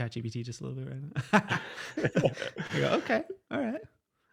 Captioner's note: laughing